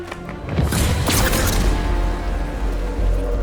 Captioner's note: sharp zapping